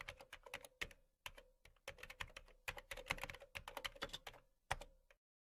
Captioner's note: keyboard sound